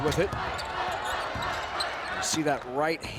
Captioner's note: crowd chants